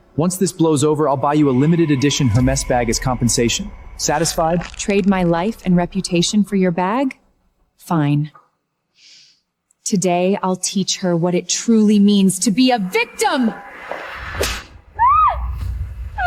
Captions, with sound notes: Once this blows over, I'll buy you a limited edition Her Mess Bag as compensation. Satisfied? Trade my life and reputation for your bag? Fine. Today, I'll teach her what it truly means to be a victim! (screams)